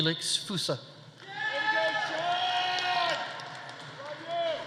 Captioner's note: audience cheering